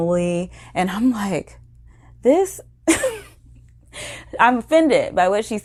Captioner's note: chuckles